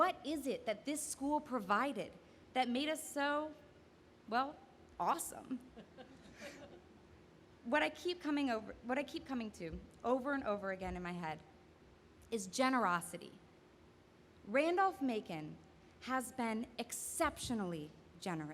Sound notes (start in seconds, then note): 5.5 laughing